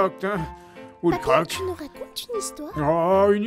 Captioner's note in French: chuchoté